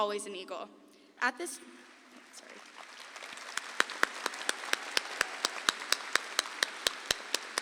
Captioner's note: audience applauds